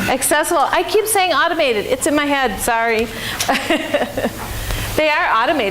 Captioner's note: chuckles